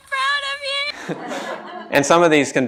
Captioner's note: laughter